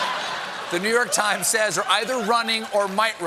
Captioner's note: laughter